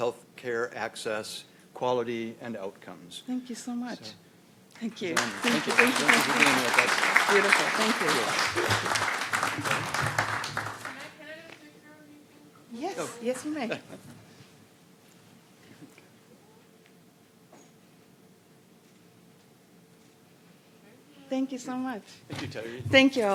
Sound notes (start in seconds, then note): 5.0 applause